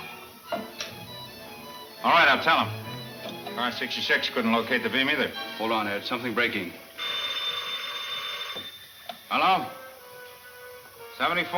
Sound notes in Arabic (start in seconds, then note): 6.9 رنين الهاتف